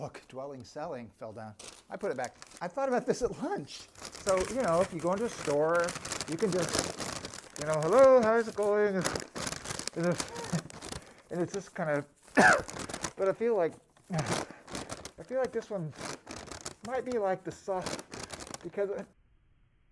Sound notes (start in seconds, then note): 8.4 gasping for air